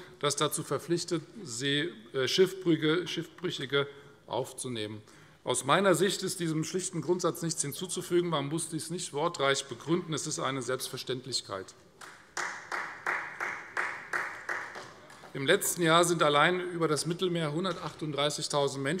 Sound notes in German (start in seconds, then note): 12.0 Beifall Freie Demokraten